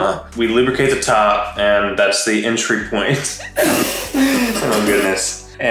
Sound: laughing

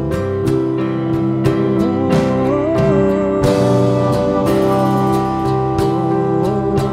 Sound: vocalizing

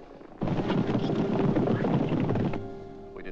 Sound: hooves pounding

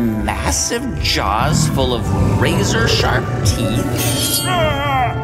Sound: soundbite of dinosaur growl, sharp blade sound

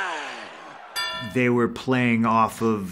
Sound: ring bell dings

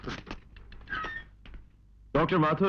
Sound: chair creaks

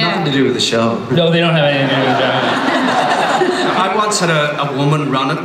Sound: laughter

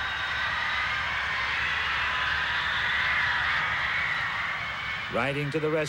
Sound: crowd cheering and screaming

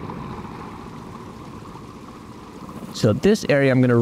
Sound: water gushing

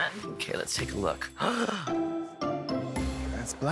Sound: gasps

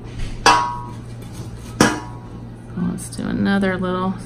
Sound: tray clanking

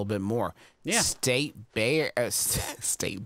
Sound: laughs

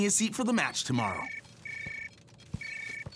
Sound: phone ringing

